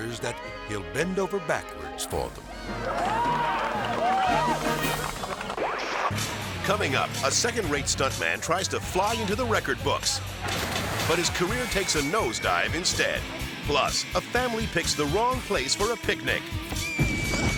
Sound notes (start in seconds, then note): 2.6 audience cheering; 10.4 water splashing